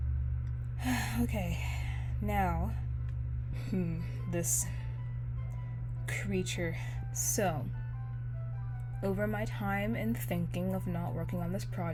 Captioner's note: sigh